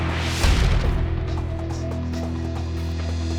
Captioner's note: logo thuds